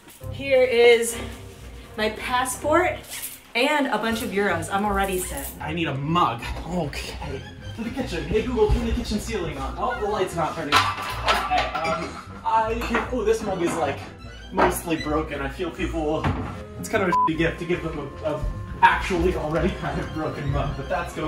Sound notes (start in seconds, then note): 17.1 beep